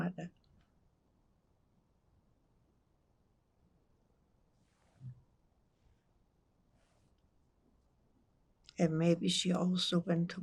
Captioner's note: pauses 8 seconds